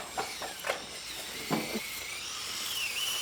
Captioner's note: machine screech